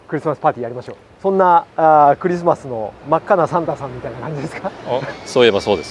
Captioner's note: laughs